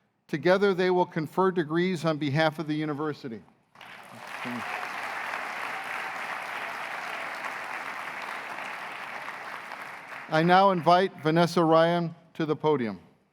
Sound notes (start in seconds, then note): 3.7 applause